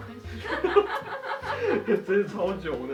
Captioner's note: laugh